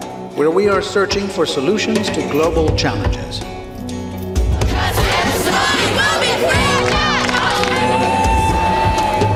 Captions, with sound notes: where we are searching for solutions to global challenges. (students chanting)